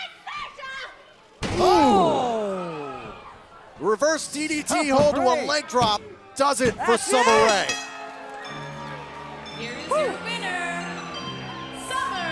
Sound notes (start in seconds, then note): 7.0 bell ringing